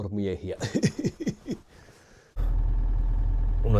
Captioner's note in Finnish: naurua